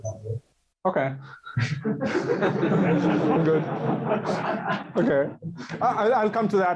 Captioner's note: laughing